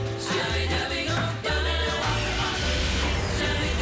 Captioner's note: engine starts